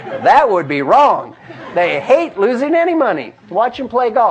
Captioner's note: laugh